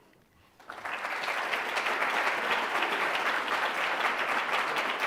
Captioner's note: audience claps